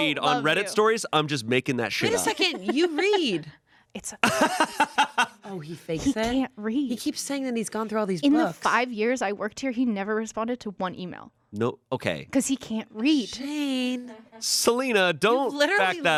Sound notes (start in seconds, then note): 4.2 laughs